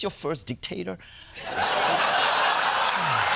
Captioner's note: laughter